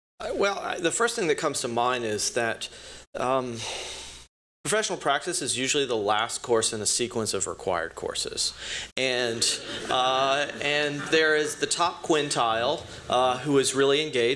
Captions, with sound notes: Well, the first thing that comes to mind is that professional practice is usually the last course in a sequence of required courses, and-- [laughter] --and there is the top quintile, who is really engaged,